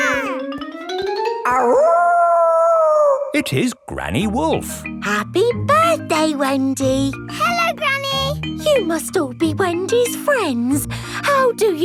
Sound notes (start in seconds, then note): 0.0 kids yelling; 1.5 howling